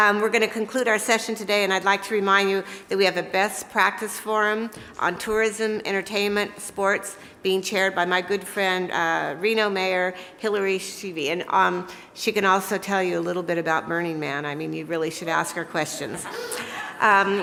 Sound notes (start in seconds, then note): none